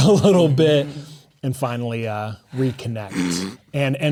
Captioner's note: snickering